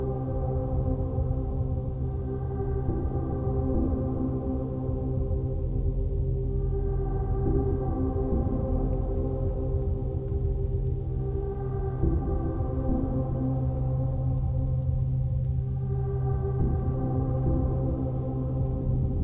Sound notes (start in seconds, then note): 10.0 pen clicks; 14.2 pen clicks